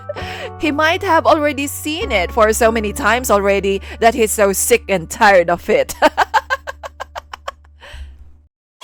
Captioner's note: laughs